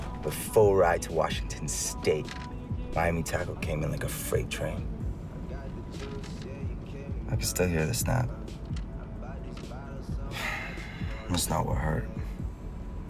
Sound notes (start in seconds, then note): none